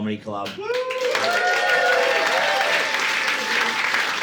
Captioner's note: audience cheering